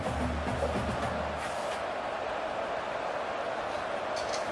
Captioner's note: crowd cheering